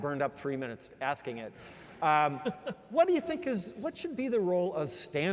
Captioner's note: laugh